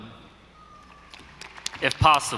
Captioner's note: audience applauding